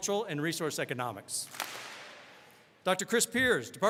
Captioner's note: all clap